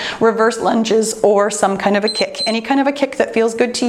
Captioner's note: timer beeps